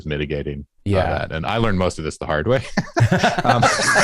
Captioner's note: laughter